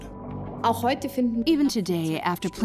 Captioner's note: in German; dubbed in English